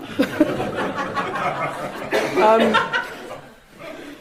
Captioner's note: audience laughing